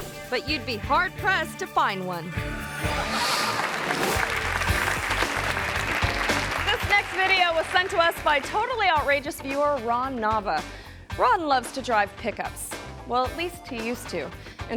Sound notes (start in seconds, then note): 3.0 audience applause; 3.0 audience laughs